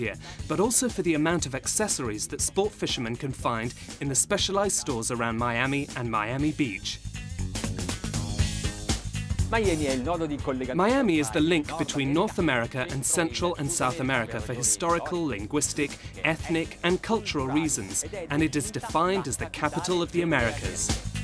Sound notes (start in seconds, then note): 7.1 upbeat music; 9.8 foreign speaking